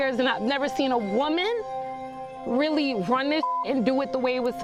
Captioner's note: beeps